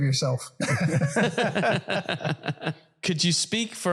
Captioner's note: laugh